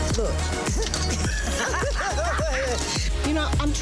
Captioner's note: both laugh